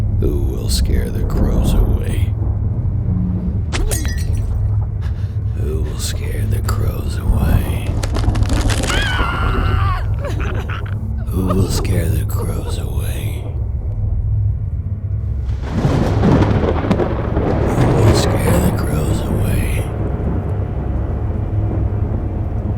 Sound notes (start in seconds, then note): 3.7 glass shattering; 7.8 flesh squelching; 8.5 victim screaming and crying; 14.2 thunder rumbling